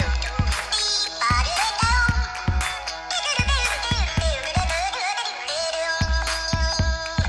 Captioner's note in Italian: Applauso